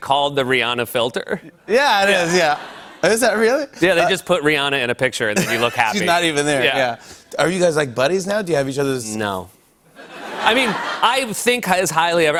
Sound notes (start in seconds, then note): 2.2 laughter; 9.9 laughter